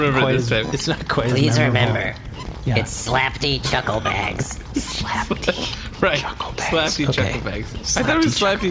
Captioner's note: laughing